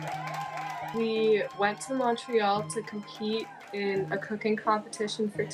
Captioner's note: applause